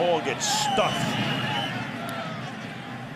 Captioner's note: whistle blows